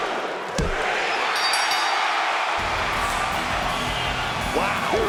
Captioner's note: bell dings